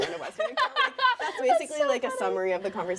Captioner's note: laughing